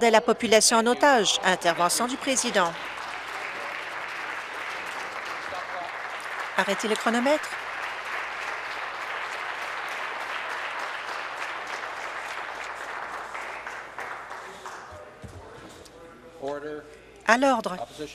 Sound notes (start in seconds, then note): 6.6 applause